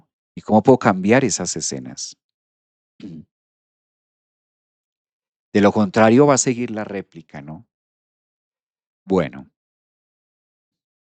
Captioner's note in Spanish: carraspeo